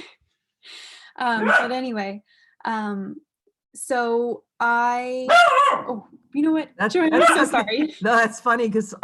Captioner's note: dog barking